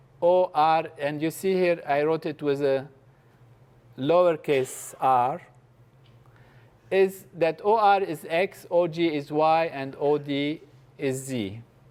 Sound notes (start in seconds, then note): none